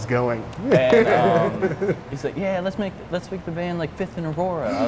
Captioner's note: laughs